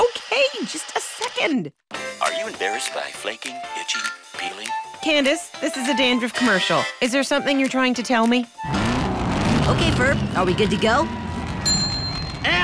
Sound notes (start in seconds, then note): 8.6 engines roaring